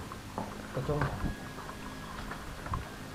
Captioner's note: the fire alarm